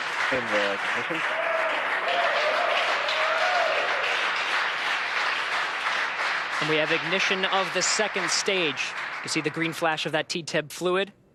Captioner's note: applause